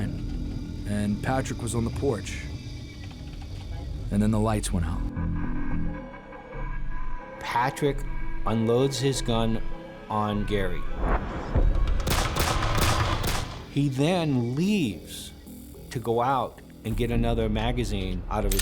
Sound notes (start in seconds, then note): 12.0 gunshots